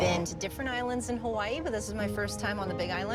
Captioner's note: car vrooming